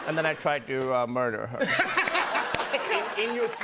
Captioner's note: laughter